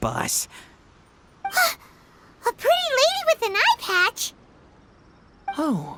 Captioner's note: gasp